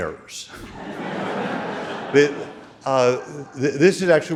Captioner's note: audience laughing